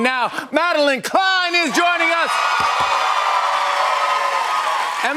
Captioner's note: cheers and applause